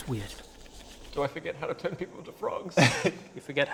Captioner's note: sad voice